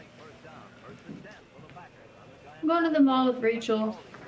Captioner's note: radio chatter